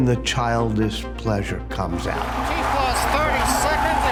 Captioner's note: crowd cheering loudly